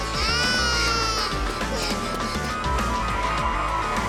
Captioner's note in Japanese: 泣き声